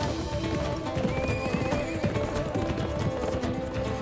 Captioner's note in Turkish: At nalı sesleri; At kişneme sesi